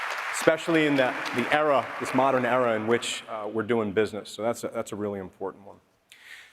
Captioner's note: applause